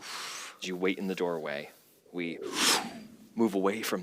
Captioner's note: woosh